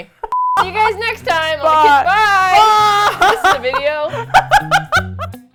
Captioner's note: laughs; funky Outro Music